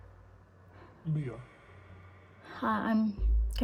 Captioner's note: ghostly Voice